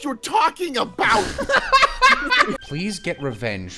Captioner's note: laughter